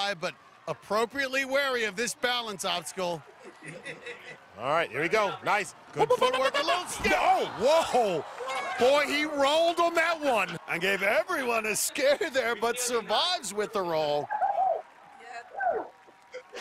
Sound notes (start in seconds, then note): 6.2 shouting